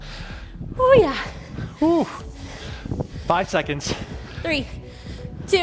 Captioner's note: breathes heavily